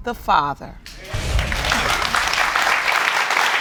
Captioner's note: audience applauding